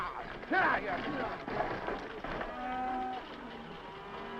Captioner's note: horse hooves clopping; cows mooing